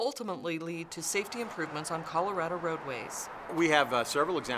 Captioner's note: sounds of vehicles driving on road; sounds of vehicles driving on roads